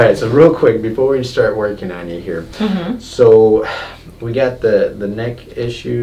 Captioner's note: none